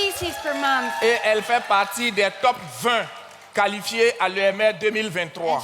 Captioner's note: continues in French